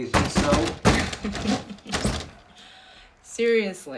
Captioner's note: giggling softly